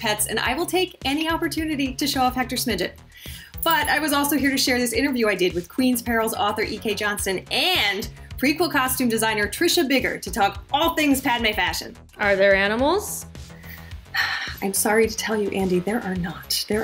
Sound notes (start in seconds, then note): none